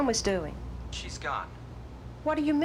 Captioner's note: on phone